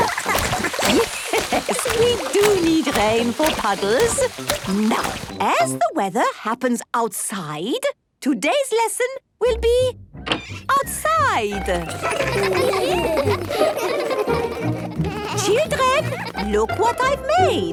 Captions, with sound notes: (Madame Gazelle laughing) - Yes, we do rain for puddles. Now, as the weather happens outside, today's lesson will be... outside. (laughter) Children, look what I made.